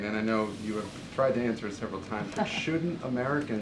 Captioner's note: laughs